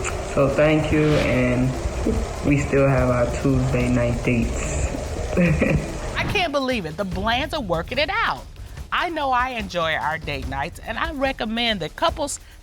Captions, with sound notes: So, thank you and we still have our Tuesday night dates. [chuckles] I can't believe it, the Blands are working it out. I know I enjoy our date nights, and I recommend that couples